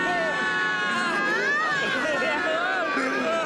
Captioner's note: laughing